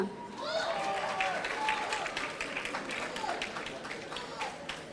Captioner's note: audience cheering